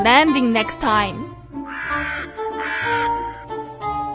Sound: croaking

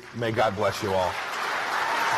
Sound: applause

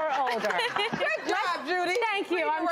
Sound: laughing

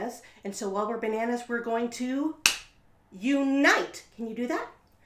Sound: clap

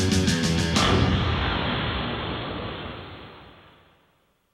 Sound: explosion booms

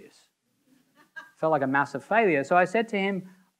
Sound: audience member laughing

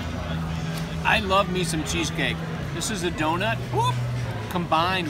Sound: whoop

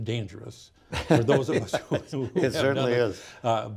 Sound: laughs

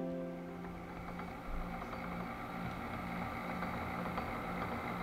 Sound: gears rumbling

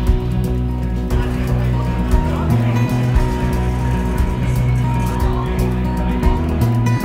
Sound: upbeat music in background; people chattering

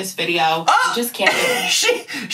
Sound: laughs

